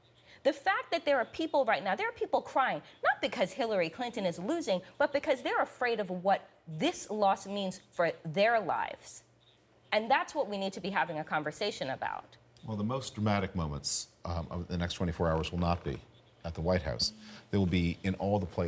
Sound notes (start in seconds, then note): none